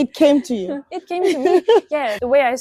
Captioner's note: laughs